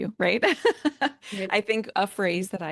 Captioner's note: laughter